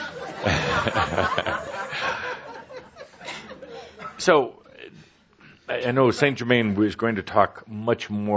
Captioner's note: chuckles and audience laughs